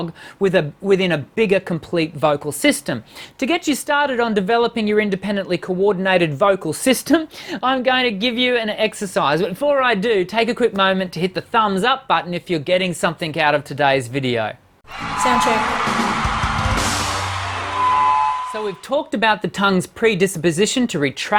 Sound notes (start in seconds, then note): 14.8 people cheering; 16.8 band playing; 17.5 microphone feedback